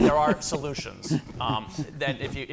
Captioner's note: laughter